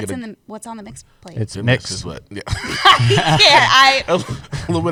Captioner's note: laughter